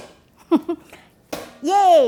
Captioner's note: laughs